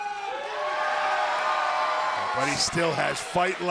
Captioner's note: cheers & applause